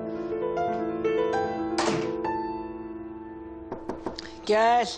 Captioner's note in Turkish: Kapı sesi